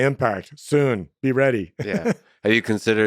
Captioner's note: laughs